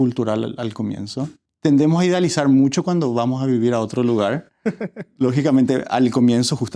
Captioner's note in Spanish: risas